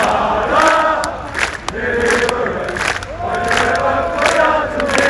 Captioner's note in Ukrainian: оплески